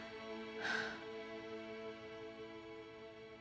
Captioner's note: sighs